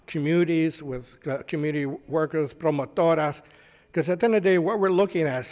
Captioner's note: speaks foreign language